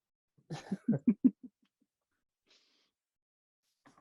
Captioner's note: chuckling